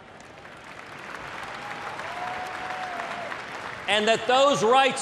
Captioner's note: applause, cheers